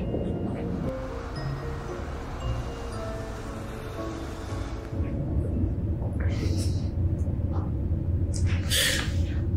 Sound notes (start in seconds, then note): 3.0 mysterious music; 3.0 traffic humming